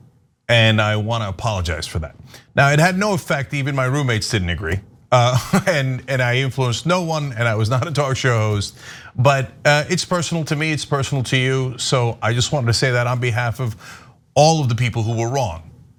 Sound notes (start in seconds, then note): 5.2 laugh